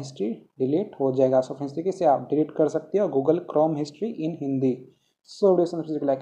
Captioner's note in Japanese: ヒンディー語